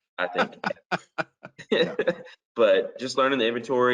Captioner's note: both laughing